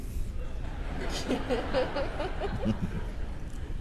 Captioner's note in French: rire